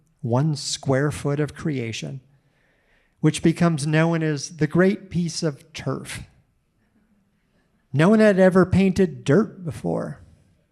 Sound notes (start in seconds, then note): none